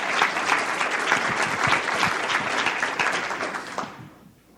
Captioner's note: audience applauding